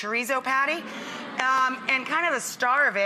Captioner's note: audience sighs